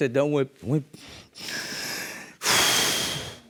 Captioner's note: sighs